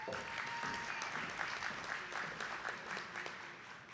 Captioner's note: attendees clapping